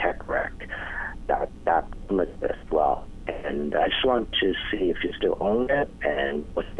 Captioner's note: audio interruption